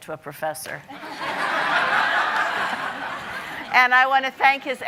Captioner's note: audience laughing